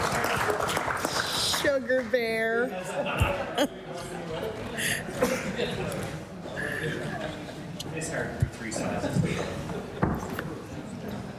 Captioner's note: applause